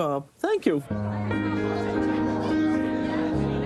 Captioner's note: indistinct lively chatter